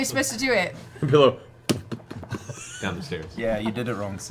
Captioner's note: impact